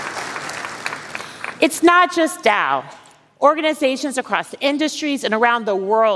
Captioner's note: applause